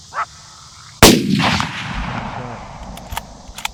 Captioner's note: gun fires